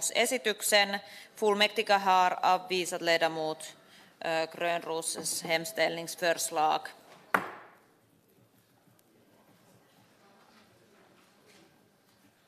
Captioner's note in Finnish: nuijan kopautus